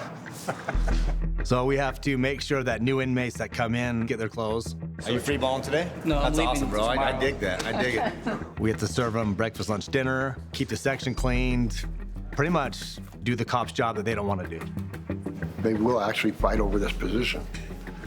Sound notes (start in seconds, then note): 0.3 laughing